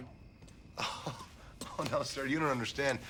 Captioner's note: laughs